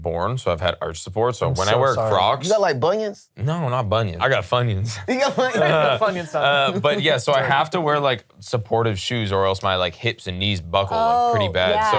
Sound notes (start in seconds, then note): 5.0 laughs